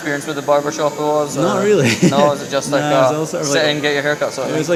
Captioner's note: laughs